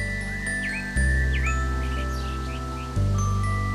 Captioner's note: birds chirping